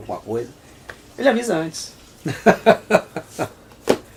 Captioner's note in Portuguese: Risos